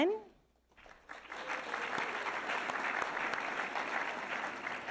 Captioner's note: audience applauding